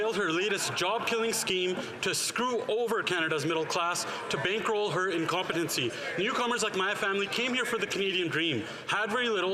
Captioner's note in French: voix de l'interprète